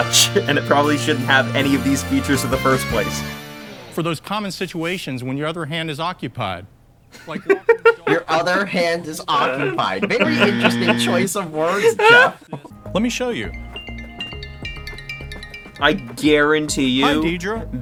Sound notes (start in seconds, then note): 10.2 buzzer; 13.6 Floaty Apple Watch ringtone